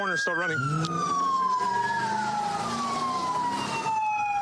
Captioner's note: engine revving